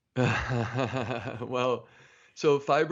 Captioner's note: laughs